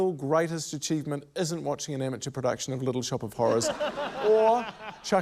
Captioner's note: laughter